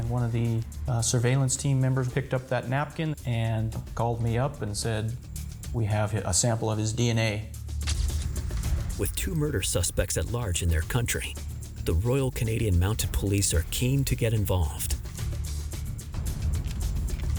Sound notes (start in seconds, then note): 7.9 camera shutter clicks; 9.1 suspenseful music; 15.3 suspenseful music